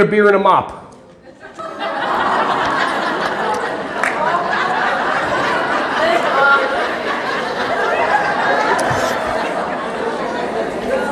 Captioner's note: audience laughing